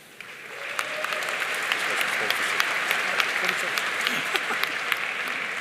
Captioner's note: audience cheering and applauding